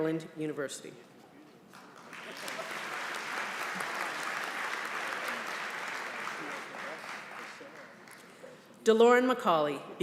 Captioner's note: applause